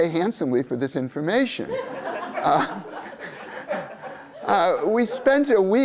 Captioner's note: laughter